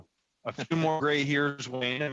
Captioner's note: laughter